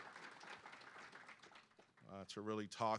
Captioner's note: clapping